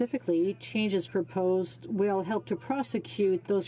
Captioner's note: speaking French